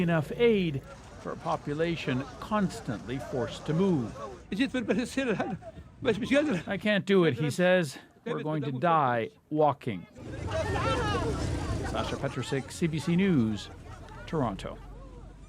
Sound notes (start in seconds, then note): 7.0 speaking alternate language